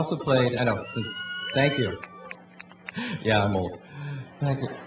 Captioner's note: cheering